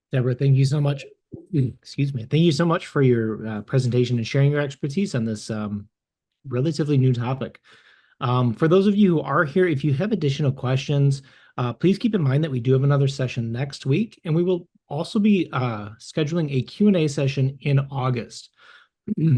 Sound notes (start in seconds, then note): 1.4 clears throat